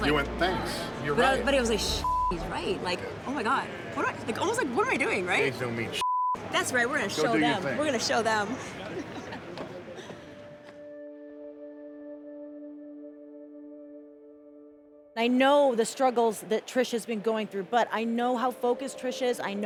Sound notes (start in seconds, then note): 1.9 beep; 6.0 beep; 10.4 somber music